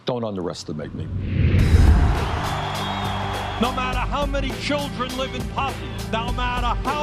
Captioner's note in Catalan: gran aplaudiment